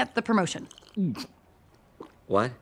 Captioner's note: Wayne chokes and sputters